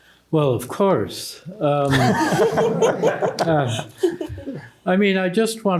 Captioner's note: laughter